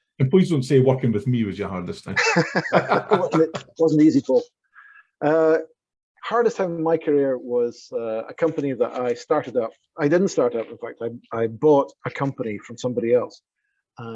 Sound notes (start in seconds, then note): 2.2 laughing